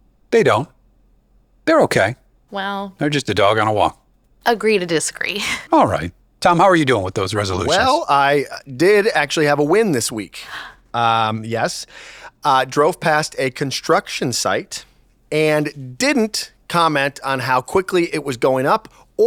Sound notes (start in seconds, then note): 11.9 gasps